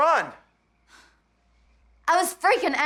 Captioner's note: sighs